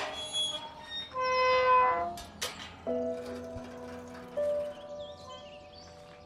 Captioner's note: gate opening